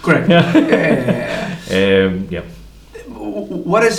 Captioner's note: laughs